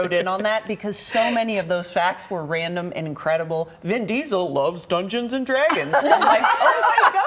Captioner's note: laughter